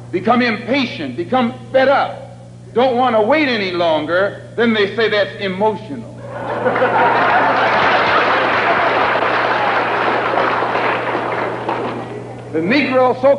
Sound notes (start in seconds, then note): 6.2 laughter and applause